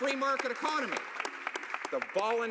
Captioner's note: applause